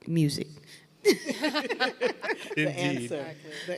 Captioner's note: everyone laughing